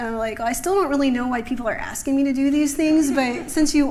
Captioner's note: laughter